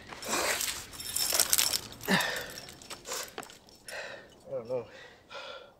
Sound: gear jingles

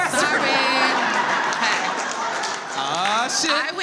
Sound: audience laughs

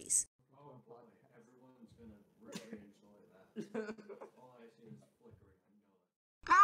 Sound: boys talking

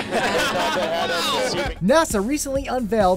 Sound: laughter

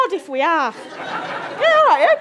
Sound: audience giggle

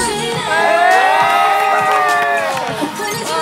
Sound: laughing

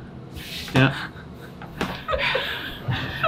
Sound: laughing

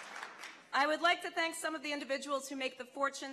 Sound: laughter and applause

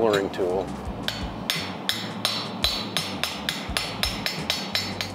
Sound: metal clangs

